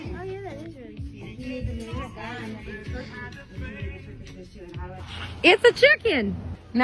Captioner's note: shopping Ambiance